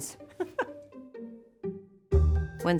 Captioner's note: laughs